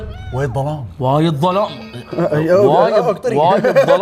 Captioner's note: in gulf accent; stuttering; in heavy gulf accent